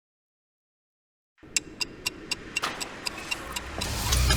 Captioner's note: ticking